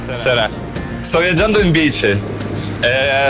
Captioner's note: speaking Italian